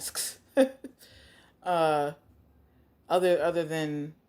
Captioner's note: laughs